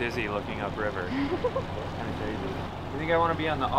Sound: laughs

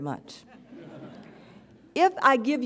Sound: audience chuckles

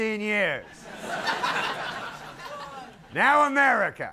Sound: audience laughing

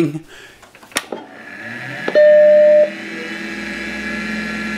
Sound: loud computer noises

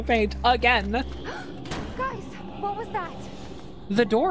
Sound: gasp

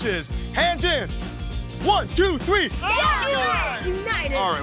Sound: all shouting

